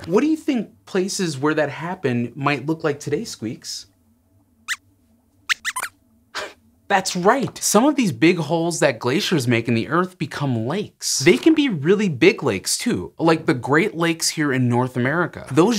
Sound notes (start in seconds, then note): 5.5 squeaks squeaks